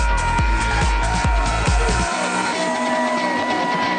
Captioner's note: crowd cheers; upbeat music